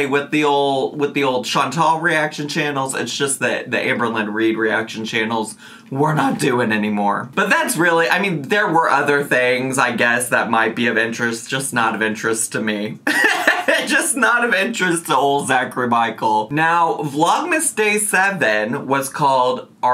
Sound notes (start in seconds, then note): 13.0 laughing